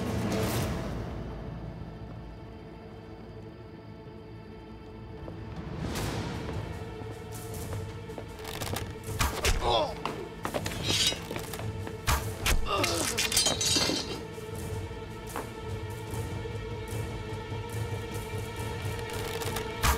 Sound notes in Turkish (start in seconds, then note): 9.1 Ok sesi; 12.0 Ok sesi; 13.9 Müzik - Gerilim